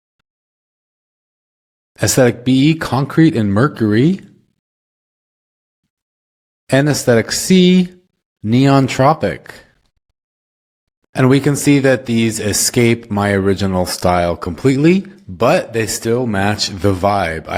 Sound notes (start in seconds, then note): none